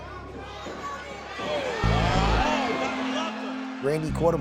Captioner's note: people yelling